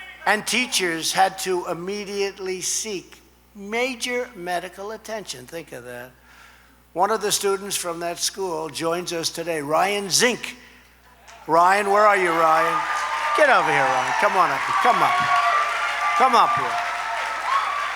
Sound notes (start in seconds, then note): 11.6 applause